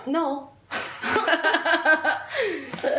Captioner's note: they laugh